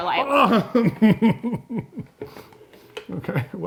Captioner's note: laughs